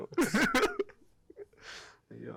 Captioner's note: laughs